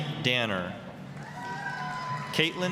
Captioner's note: applause, cheering